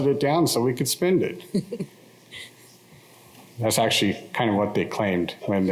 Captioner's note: laughter